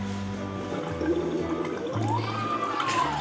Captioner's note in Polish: bulgotanie